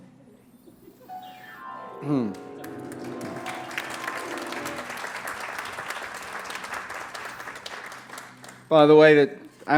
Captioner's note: applause